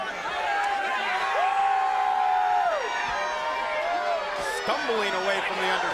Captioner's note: audience cheering